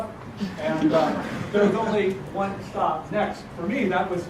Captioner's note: laugh